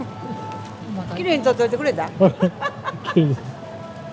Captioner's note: laughs